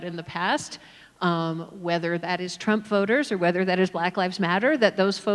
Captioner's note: none